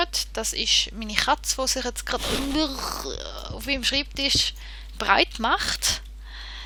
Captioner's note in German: Katze streift Mikro